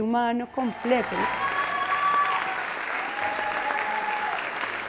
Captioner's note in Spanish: aplausos